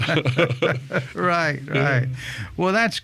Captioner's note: laughing